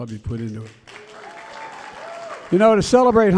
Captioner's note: applause